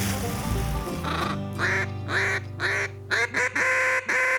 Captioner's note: quacking